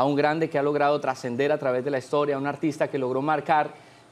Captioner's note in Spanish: none